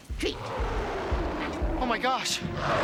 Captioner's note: Scarface roaring